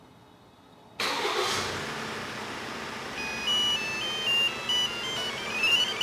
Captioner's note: van starts